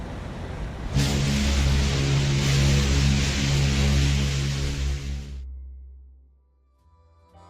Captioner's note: Queen Mary's whistles blast once more